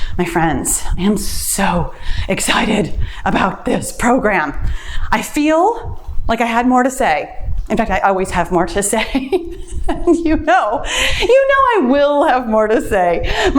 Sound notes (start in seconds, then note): 8.9 laughs